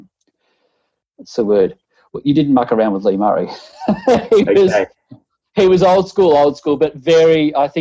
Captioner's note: both laughing